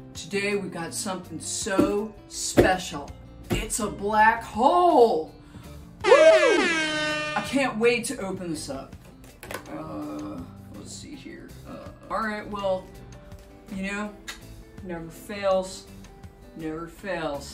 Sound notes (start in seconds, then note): 6.0 buzzer noise